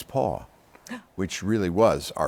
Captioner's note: gasps